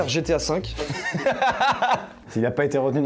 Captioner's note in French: rire